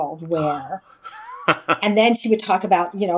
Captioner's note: laugh